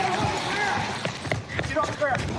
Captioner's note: footsteps running